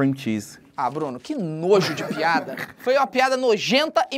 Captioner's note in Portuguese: risadas